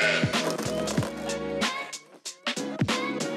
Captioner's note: sheep baas; fence creaks